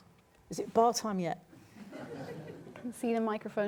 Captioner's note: laughter